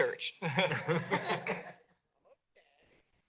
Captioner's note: laughter